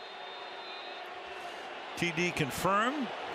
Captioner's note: whistle